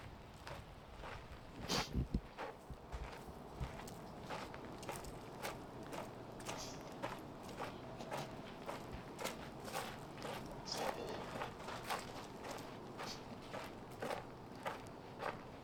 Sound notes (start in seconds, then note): 5.0 wind